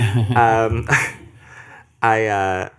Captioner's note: laughter